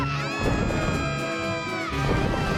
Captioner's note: thunder rumbling